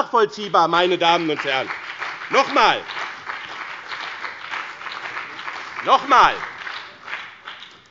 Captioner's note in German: Beifall bei dem BÜNDNIS 90/DIE GRÜNEN und der CDU